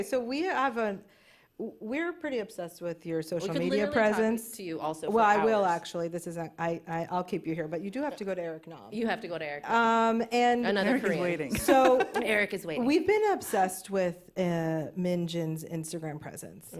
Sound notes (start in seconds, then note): 11.4 laughs